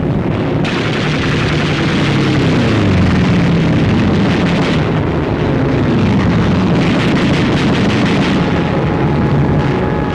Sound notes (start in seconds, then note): 0.6 guns firing